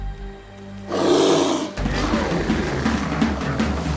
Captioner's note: bears growling; intense percussion music